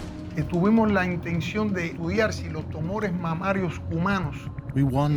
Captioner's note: speaking Spanish